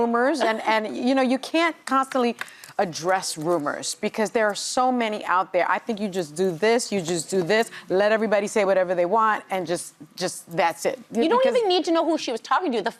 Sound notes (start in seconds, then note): none